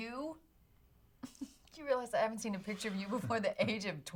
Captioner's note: laughs